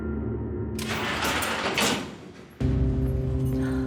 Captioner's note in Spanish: ruido al abrir la reja